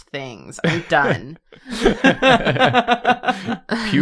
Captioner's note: laughter